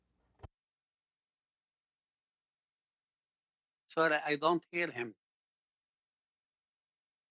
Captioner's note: speaking French